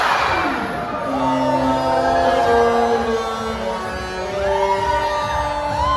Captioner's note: Classic Disney ship whistle